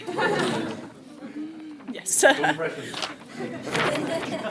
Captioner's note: audience laughter; more laughter